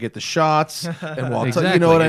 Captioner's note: laughter